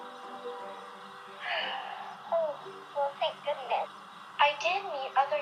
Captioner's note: sighs with relief